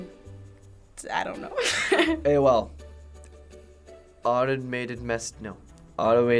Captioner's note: laughs